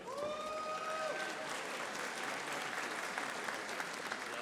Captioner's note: audience applauding